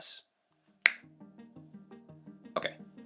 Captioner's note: snaps finger